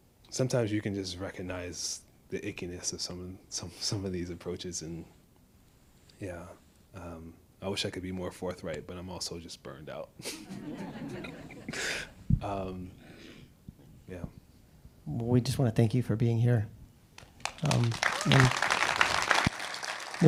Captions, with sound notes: Sometimes you can just recognize the ickiness of some of these approaches, and yeah, I wish I could be more forthright, but I'm also just burned out. (laughs) (audience laughs) Yeah. - Well, we just wanna thank you for being here. (audience applauding)